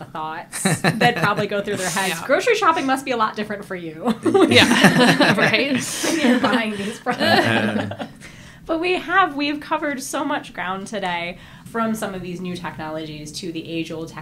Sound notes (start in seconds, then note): 4.1 laughter